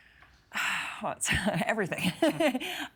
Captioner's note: sighing; chuckling